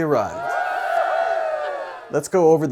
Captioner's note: crowd cheering